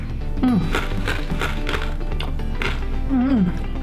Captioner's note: crunch, crunch, crunch